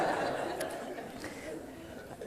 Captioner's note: laughter